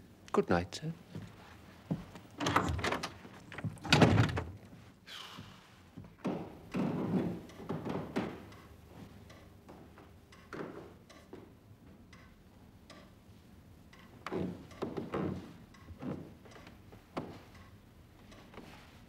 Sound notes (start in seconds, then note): 6.9 furtive footsteps; 12.0 clock ticking; 14.3 stairs creaking